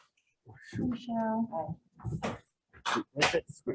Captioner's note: speaking in foreign language